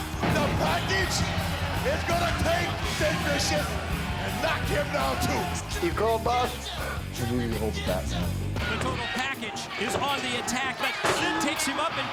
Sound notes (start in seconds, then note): 0.0 exciting rock music; 7.2 sighs